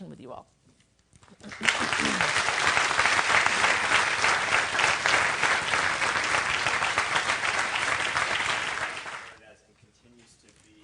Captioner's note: applause